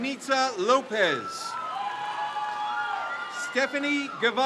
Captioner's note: crowd cheers